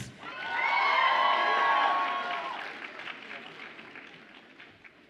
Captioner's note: audience applauds and cheers